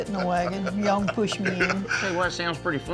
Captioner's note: laughs